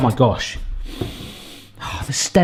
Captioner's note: sniffing